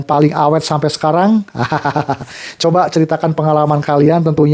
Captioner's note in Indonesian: tertawa